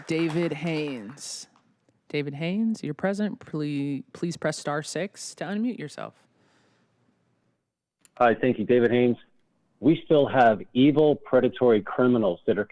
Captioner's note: applause